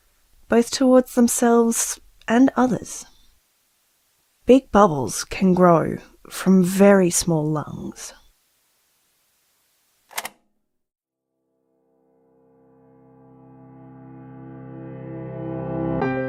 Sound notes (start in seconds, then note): 10.1 click